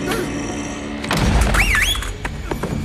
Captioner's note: Thug 4 'wolf whistles'